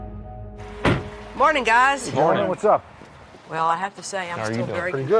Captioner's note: car door slams